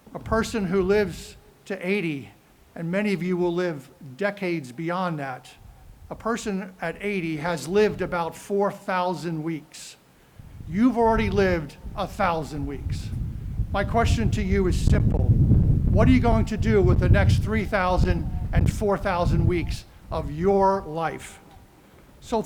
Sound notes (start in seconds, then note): none